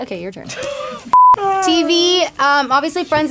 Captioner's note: beep